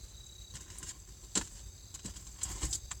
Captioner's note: footsteps